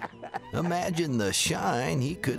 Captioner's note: laughs